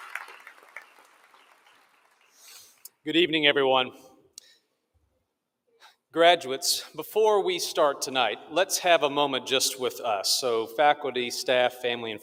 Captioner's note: applause